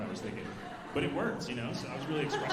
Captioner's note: alumni laughing